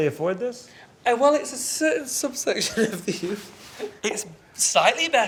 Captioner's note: laughs